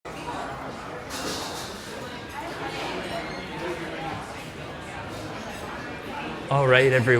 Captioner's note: crowd chatter